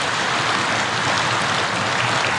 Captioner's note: applause